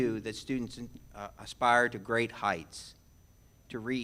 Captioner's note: none